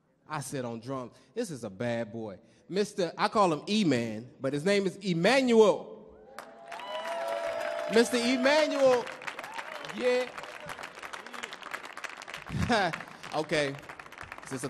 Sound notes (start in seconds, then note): 6.3 audience cheering; 6.3 audience clapping